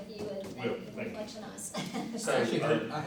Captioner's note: laughs